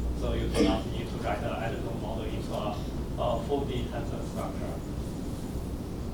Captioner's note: faintly speaking